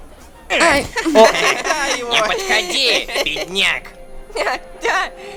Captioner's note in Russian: Смех других детей